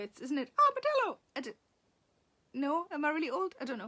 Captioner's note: Sarah uses funny voice